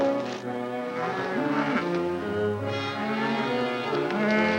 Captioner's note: cows mooing